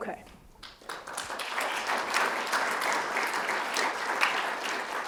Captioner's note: audience applauding